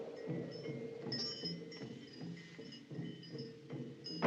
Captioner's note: wind Chimes Tinkling